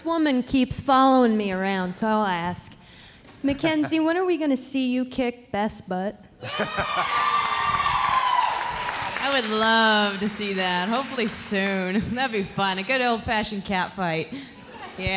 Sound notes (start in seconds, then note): 6.4 audience cheering